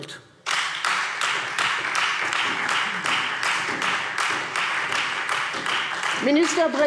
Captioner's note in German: Beifall Freie Demokraten und vereinzelt SPD